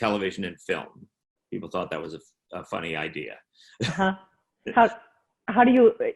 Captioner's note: chuckling